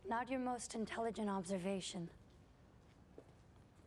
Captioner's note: none